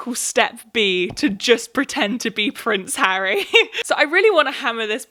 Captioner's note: laughs